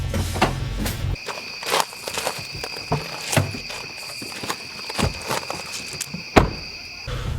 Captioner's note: car door closing; gravel crunching; crickets chirping; door slamming